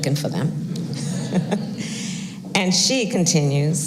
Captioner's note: laughter